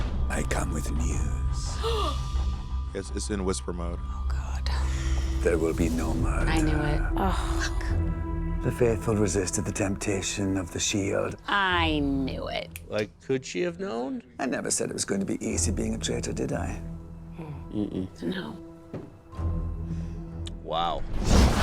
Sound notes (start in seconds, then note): 0.2 whoosh; 2.9 gasps; 4.2 whispering